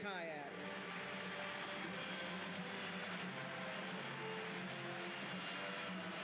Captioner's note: applause erupts; orchestral music